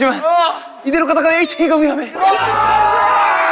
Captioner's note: ATINY: Crying